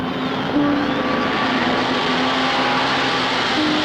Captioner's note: cars rumbling